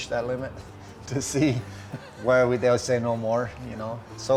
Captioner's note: laughs